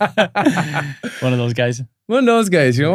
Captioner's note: all laughing